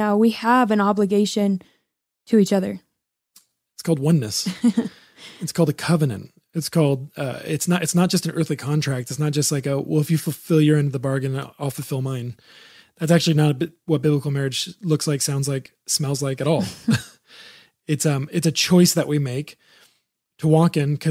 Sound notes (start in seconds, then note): 4.4 laughs; 16.6 both laughing